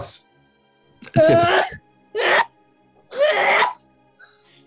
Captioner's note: sneezing